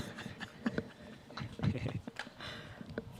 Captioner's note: laughs